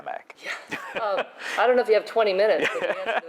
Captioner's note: laughs